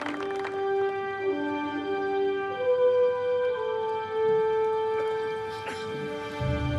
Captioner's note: applause